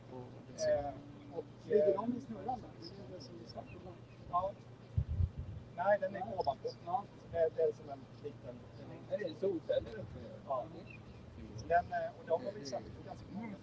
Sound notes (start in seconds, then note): 0.0 speaking Swedish